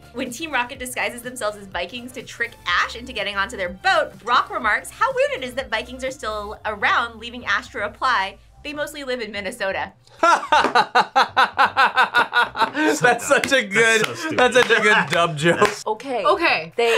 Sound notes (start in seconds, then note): 10.2 laughs